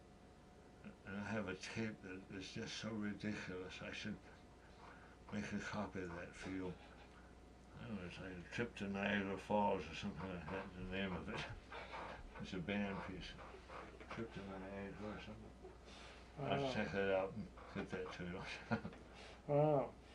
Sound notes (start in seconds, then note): 14.8 laughs